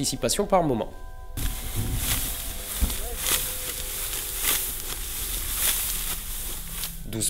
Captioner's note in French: bruit du blé qu'on écrase